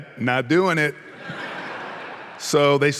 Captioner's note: audience laughing